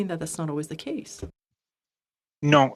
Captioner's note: speaking in French